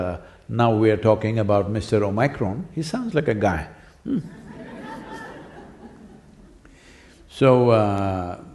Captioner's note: laughter